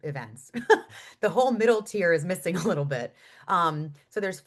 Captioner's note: chuckles